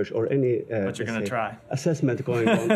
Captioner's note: laughter